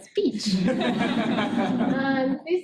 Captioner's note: audience laughing